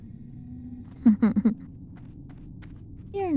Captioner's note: laughter